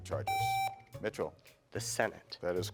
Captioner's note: buzzer beeps